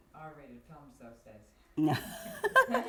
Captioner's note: laughter